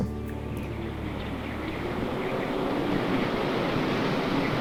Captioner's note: wind blowing